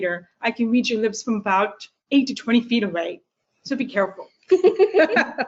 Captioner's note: laughter